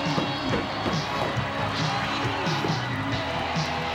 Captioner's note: audience cheering